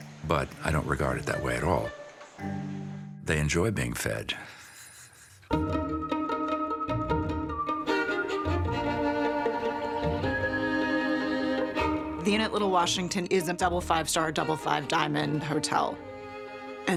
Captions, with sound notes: but I don't regard it that way at all. They enjoy being fed (laughs). (light music) >>The Inn at Little Washington is a double five star, double five diamond hotel.